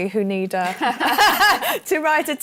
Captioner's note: laughter